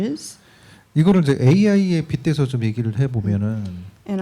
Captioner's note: speaking korean